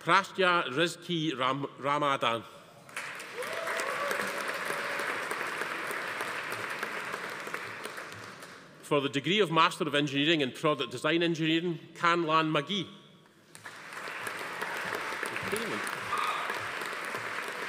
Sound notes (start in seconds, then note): 2.9 audience applauding; 3.1 attendees cheering; 13.5 audience applauding; 13.8 attendee cheering